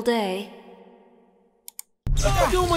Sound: clicking

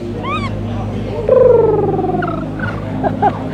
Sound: squeak; laughing; rolling tongue

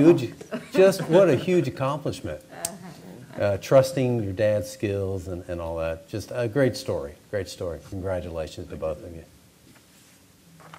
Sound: laughter

